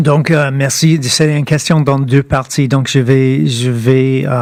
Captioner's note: speaking French